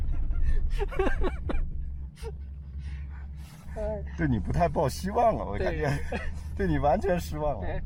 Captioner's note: laughter; speaking Chinese